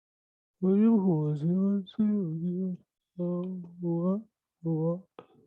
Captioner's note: imitating her voice